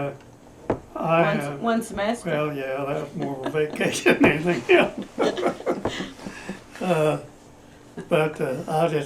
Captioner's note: laughter